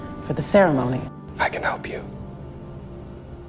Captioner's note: voiceover; whispering